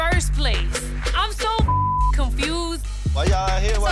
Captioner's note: beep